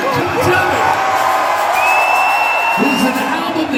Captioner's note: cheering